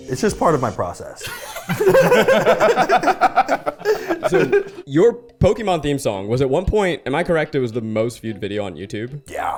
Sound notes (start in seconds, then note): 1.2 people laughing